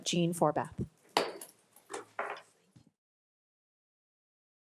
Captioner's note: gavel bangs